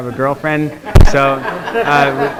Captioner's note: students laughing